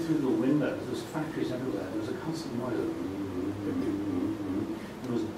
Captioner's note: humming